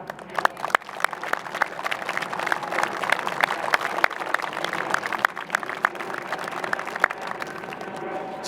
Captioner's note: applause